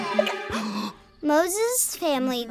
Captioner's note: all gasp; baby hiccups; voiceover